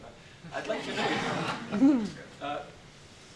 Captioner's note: laughter